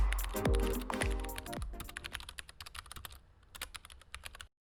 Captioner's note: keyboard clicking